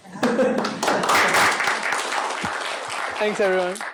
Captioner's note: applause